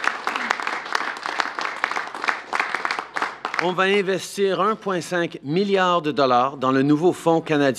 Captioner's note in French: Applaudissements